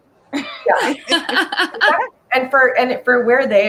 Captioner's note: laughs